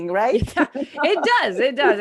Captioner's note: laughs